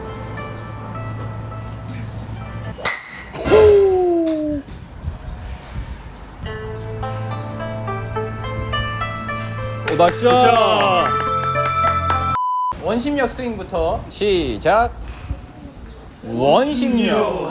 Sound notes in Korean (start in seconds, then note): 9.8 박수 치고 있음